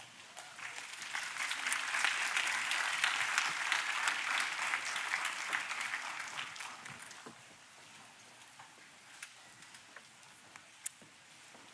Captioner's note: applause